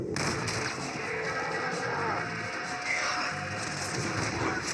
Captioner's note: shoots and cries of angry colossus; Zombie running after me